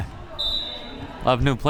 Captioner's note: whistle